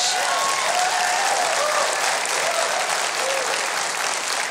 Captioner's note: audience cheers